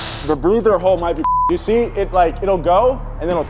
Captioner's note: beep